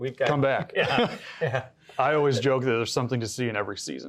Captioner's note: both chuckle